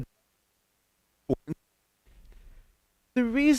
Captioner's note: audio Cuts Out